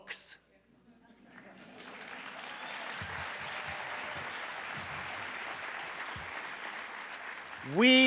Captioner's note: applause